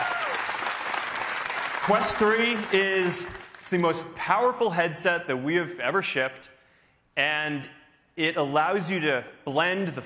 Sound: cheers and applause

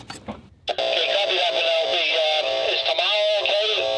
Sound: man On The Radio

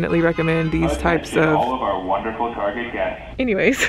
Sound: speakers blaring

